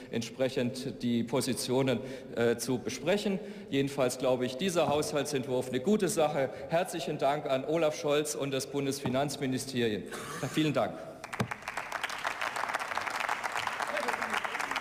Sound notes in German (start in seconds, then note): 11.2 Beifall